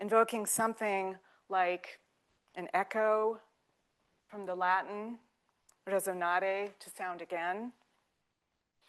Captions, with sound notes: invoking something like an echo from the Latin, [speaking in foreign language] to sound again.